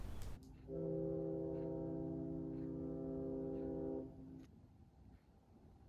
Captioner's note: you can hear the sound of a ship's whistle